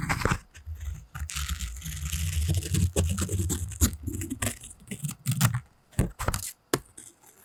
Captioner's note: crunch crunch